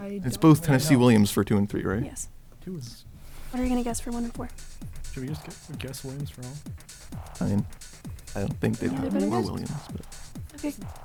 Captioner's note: wispering